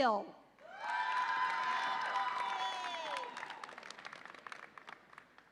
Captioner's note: audience applauds and cheers